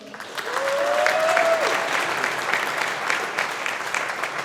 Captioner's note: audience applauding